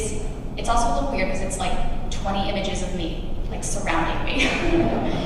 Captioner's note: laughs